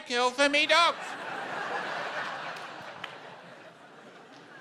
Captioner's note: laughter